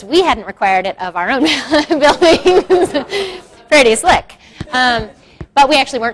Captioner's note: laughs